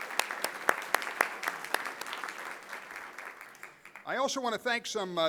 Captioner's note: applause